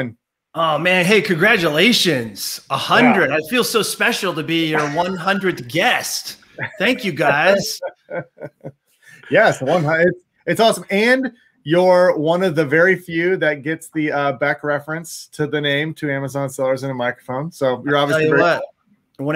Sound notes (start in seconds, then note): 6.6 laughs